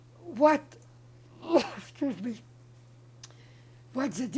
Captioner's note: coughing